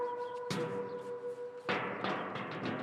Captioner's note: metal sounds